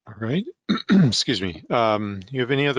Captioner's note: clears throat